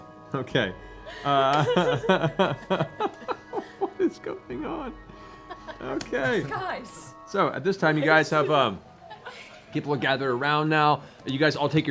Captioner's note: laughs